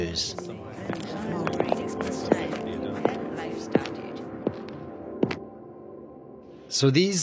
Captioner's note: footsteps